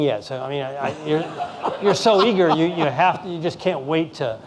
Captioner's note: laughing